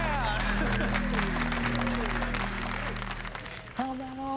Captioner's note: laughs; applause